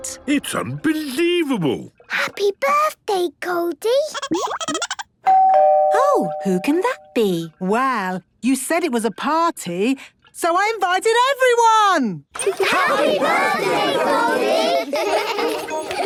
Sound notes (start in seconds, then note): 4.2 Goldie giggling; 5.2 doorbell ringing; 14.9 laughter